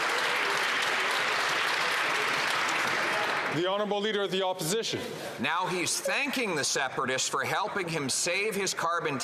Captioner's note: applause